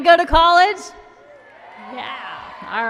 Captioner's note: applause and cheering